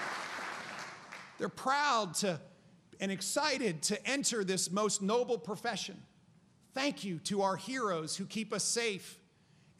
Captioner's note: applause